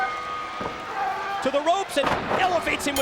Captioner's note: bell ringing